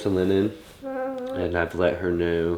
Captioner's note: coos